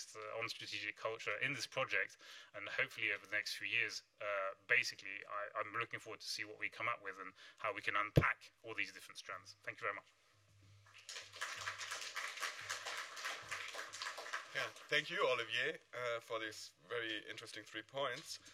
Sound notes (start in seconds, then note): 10.9 applause